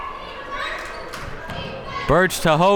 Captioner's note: crowd members shouting